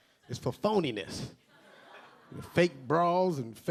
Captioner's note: a few audience members laughing